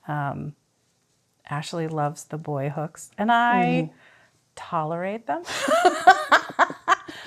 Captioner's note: laughs